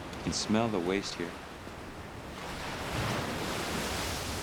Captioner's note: none